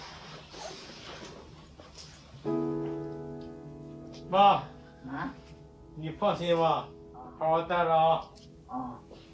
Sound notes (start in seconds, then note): 1.6 gentle piano music; 4.5 speaks in Chinese language